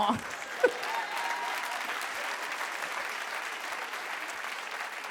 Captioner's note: audience cheers and claps